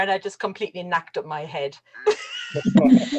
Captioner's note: laughs